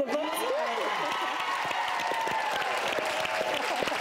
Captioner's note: applause